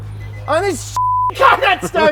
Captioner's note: beep; laughter